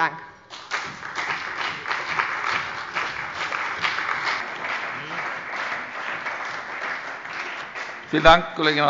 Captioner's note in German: Beifall bei der CDU und dem BÜNDNIS 90/DIE GRÜNEN